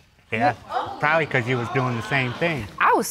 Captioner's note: audience gasps